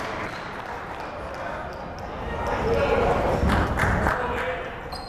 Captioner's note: clapping; chattering